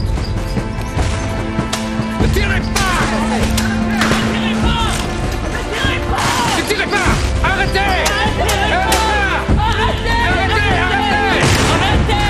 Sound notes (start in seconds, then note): 0.2 gunshots banging; 5.8 soldiers yelling and chattering